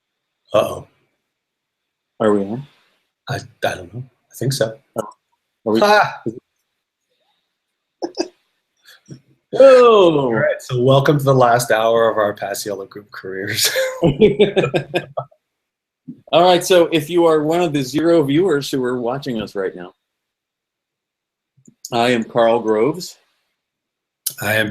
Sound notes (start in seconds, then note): 7.9 laughter; 13.4 laughing